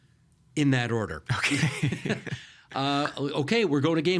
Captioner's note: laughing